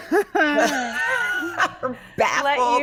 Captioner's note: laughing